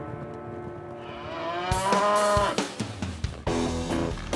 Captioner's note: mooing